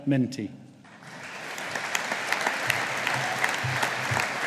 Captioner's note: audience applauding